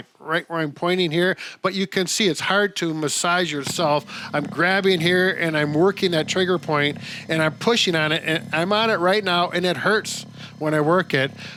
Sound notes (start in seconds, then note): 7.8 massager buzzing